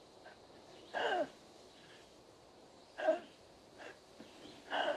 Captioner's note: breathing coarsely